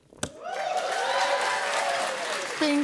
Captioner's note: cheers and applause